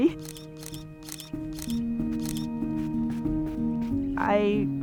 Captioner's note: camera shutter